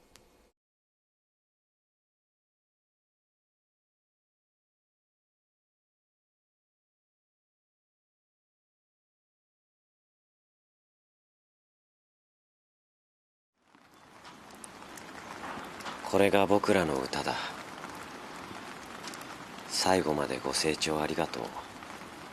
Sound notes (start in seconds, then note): 0.0 silence; 13.2 rainfall